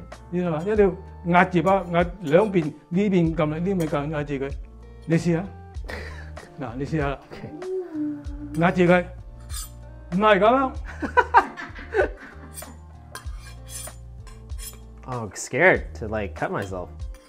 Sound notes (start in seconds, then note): 10.9 laughs